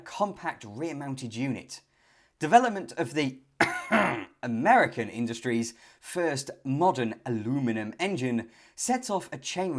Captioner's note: cough